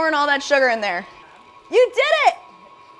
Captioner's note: mixer whirring